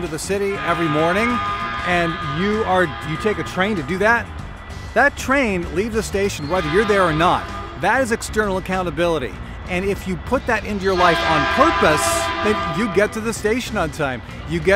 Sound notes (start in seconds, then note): 10.8 train whistle